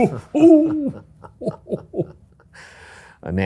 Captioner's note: laughs